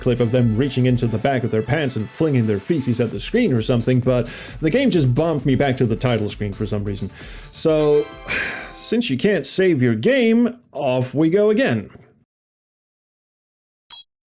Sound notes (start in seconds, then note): 8.2 sigh